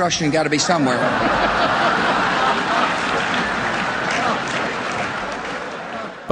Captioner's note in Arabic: ضحك